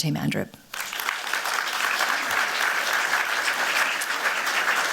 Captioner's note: applause